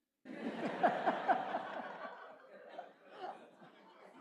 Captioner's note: audience laughs